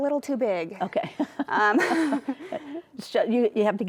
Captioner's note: laughing